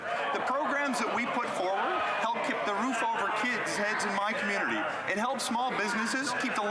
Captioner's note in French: voix de l'interprète